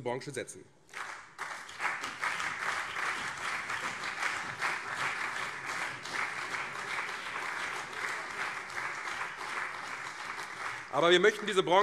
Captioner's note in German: Beifall CDU und vereinzelt SPD